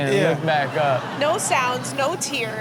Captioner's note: crowd laughs